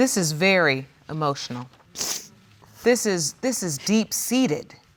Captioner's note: sniffles